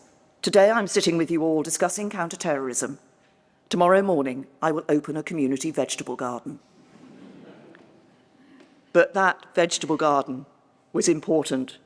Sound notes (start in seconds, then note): 6.9 laughter